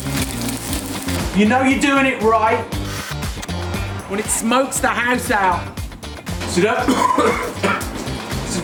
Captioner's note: coughs